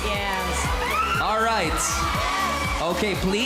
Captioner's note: screaming